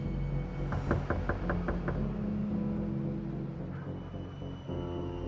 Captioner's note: door knocking; foreboding music